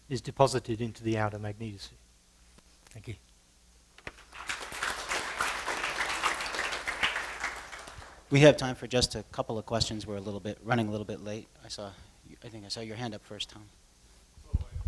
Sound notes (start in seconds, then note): 4.0 applause